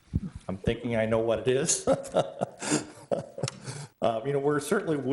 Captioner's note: laughs